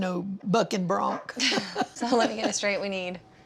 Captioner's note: laughter